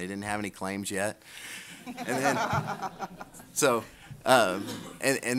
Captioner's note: audience laughter